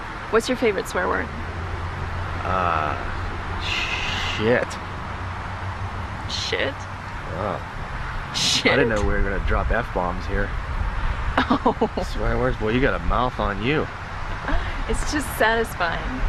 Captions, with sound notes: What's your favorite swear word? Ah? Shit. Shit? Oh Shit? I didn't know we were going to drop "F" bombs here. [Laughing] Swear words? Boy you got a mouth on you! It's just satisfying.